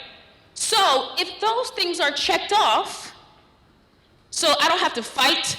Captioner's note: none